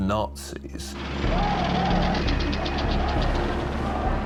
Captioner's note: people shouting